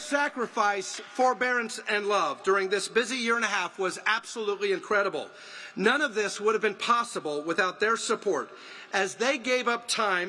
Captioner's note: applause